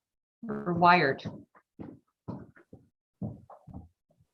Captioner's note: stomping